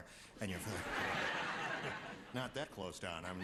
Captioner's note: laughter